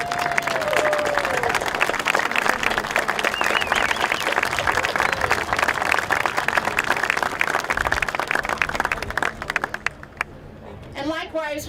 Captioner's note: applause